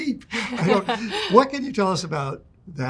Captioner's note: laugh